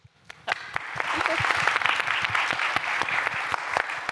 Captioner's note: applause